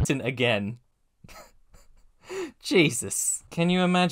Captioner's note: chuckle